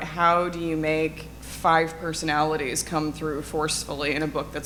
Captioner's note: none